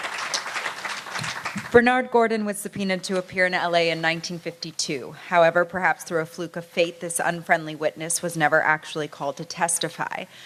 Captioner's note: applause